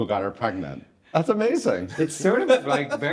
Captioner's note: guests chuckling